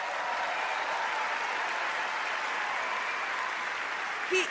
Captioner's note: applause